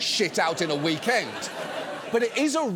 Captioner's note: audience laughs